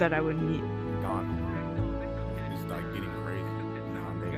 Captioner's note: conversing